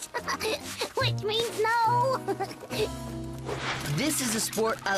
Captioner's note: giggling